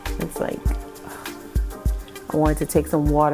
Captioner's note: sighs